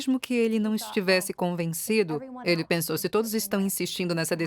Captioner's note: speaking in a foreign language